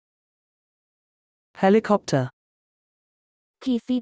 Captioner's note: Proloquo voice